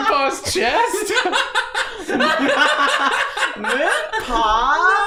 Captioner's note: laughter